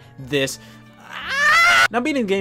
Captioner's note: screaming